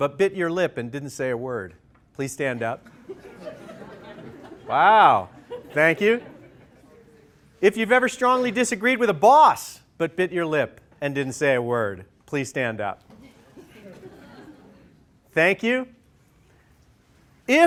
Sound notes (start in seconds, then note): 2.8 laughter; 13.1 laughter